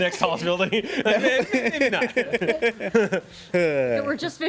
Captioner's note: everyone laughs